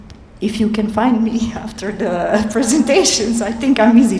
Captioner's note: laughs